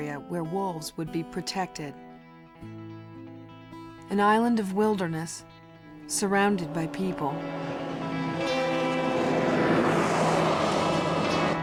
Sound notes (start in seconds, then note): 7.9 vehicle engines whirring; 9.3 suspenseful music